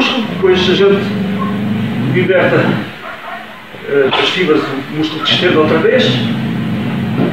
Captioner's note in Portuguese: electric impulses